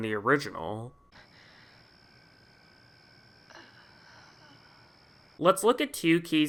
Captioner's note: Nancy breathes shakily looking at Tina